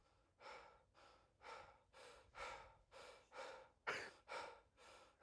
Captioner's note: apple breathing heavy